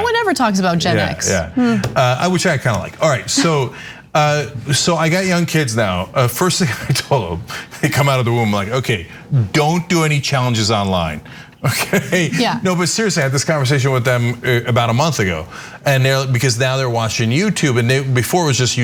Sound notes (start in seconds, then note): 11.8 laugh